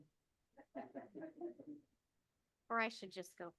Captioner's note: panelists laughing